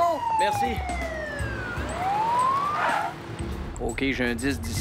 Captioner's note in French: sirènes de voiture de police